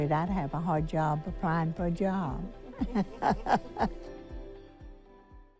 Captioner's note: laughing